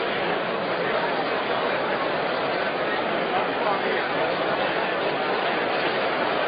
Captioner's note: crowd noise